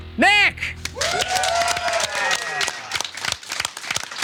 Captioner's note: audience cheering